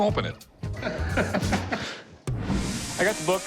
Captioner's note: laughter